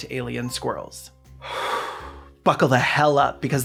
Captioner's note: exasperated gay sigh